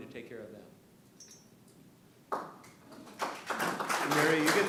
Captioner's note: applause